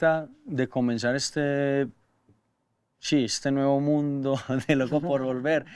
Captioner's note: laughing